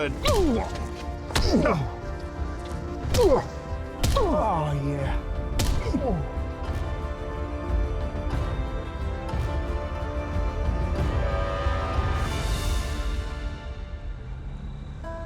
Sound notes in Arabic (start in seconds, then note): 1.2 أنين; 5.1 أنين